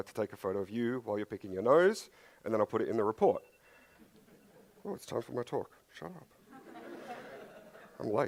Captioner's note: phone interruption